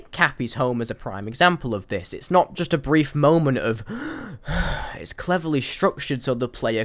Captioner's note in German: Einatmens; Ausatmens